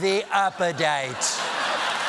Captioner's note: cheers and applause